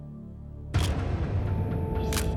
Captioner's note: camera shutter click